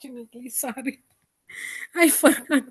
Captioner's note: laughs